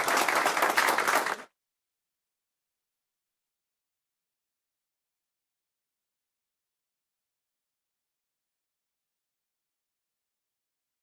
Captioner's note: applause